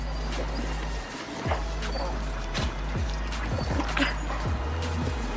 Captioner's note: dog whining